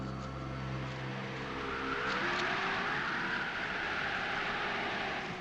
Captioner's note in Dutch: wind fluitend